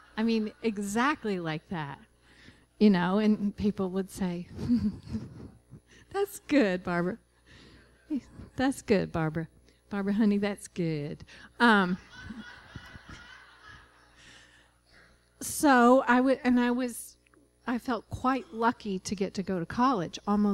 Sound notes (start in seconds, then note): 11.9 laughter